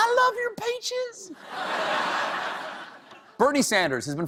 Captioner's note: laughter